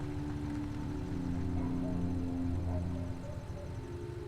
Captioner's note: crickets chirping; slow ominous music; dog barking